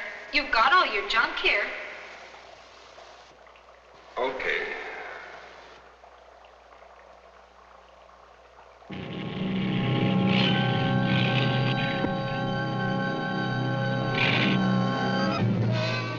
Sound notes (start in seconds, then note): 9.1 car engine running; 11.0 dramatic instrumental music